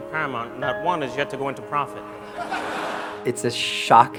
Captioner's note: laughter